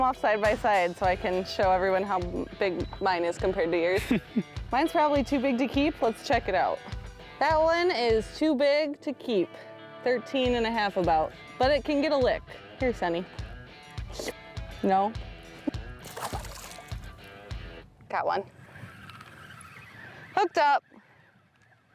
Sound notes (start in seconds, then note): 4.0 chuckles; 14.1 slurping; 16.0 water splashing; 18.5 line whirring